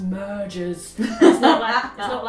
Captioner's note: laughs